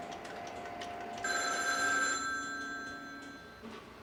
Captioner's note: phone ringing